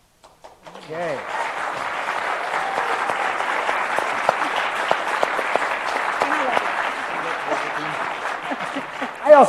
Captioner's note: applause